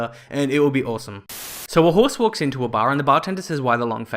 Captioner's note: Static